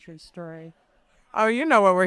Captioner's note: people laughing